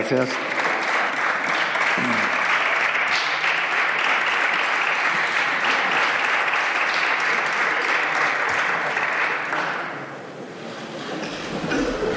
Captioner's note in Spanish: Aplausos